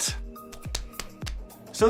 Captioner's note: slaps face